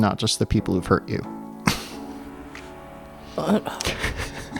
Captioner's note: laughter